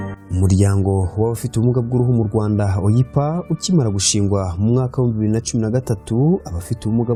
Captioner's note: speaking in Kinyarwanda